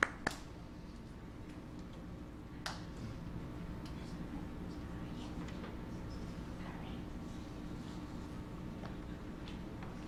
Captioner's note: applause